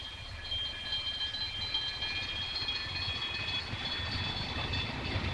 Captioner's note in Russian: сигнал-колокольчик поезда